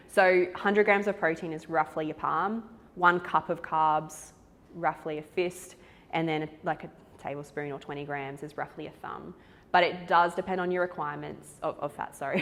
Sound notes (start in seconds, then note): none